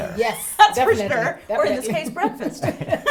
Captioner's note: laugh